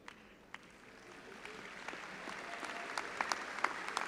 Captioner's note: all applauding